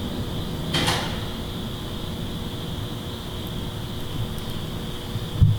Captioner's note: mysterious clicking noise